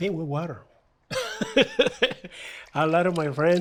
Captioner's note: laughs